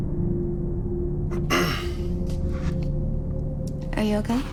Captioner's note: clears throat